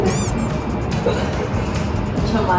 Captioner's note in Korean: 웃음